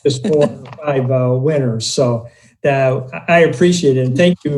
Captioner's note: laughing; murmurs